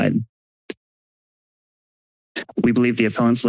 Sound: silence

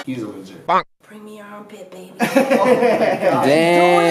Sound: laughter

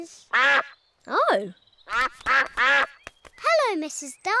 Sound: all quack

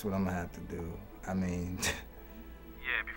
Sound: chuckles

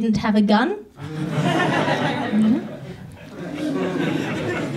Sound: audience laughs

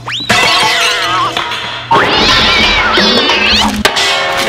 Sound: utensil clanking

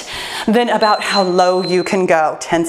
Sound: timer beeps

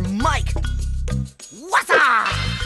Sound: yelling

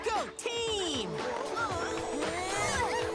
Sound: grunting

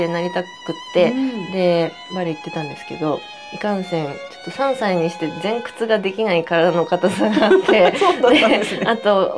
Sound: laughs

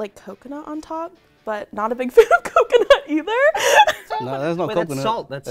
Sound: laughing

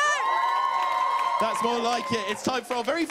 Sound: louder cheers

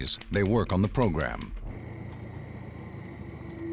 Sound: crickets chirping

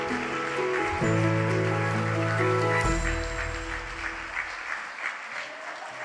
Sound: audience applauds continue

